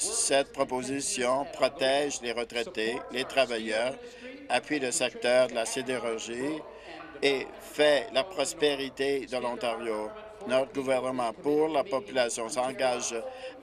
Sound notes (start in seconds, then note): none